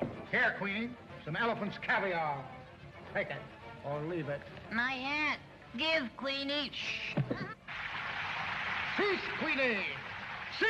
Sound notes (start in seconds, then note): 7.6 water gushing